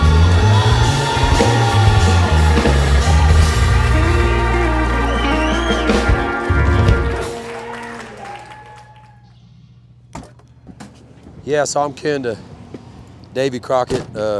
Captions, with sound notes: (crowd cheering) Yeah, so I'm kinda Davy Crockett,